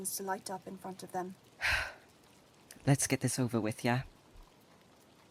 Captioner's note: Remus takes a deep breath